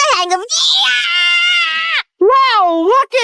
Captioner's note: screams